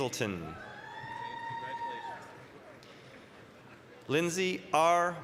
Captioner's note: applause, cheering